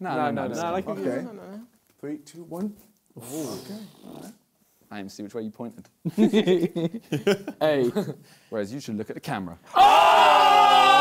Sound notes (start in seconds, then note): 6.0 both laughing